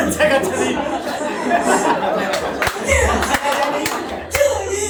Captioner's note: everyone laughs